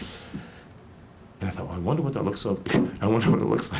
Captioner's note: laughs